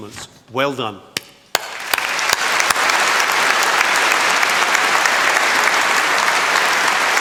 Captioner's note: applause